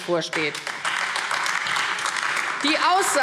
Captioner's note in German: Beifall AfD